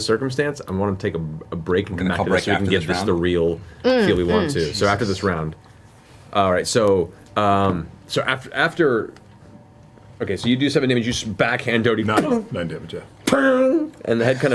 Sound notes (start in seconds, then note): 11.9 impact sound